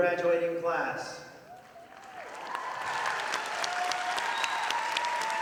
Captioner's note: audience applauding